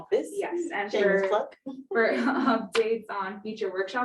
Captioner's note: women laughing